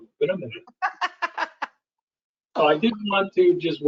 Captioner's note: laughs